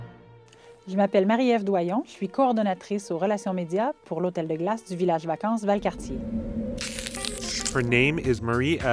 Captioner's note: speaking french